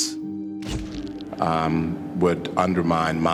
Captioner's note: shutter clicks